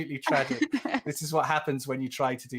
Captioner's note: laughs